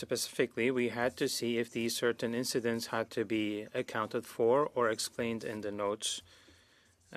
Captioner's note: speaking French